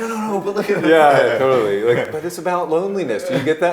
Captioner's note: laughing